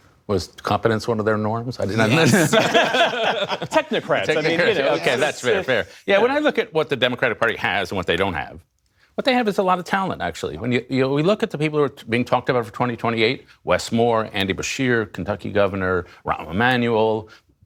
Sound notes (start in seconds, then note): 2.0 laughter